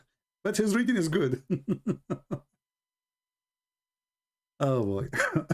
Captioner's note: Ketawa